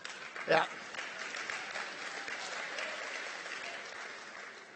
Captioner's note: applause